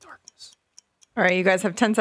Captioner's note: clock ticking